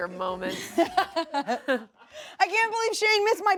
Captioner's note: laughs